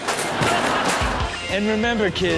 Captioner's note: audience laughs